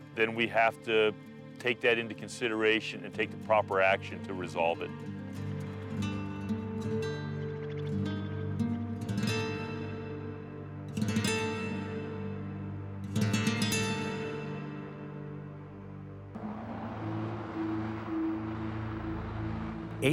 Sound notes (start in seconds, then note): 7.7 birds chirping; 16.0 traffic whirring